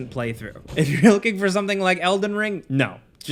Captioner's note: laughs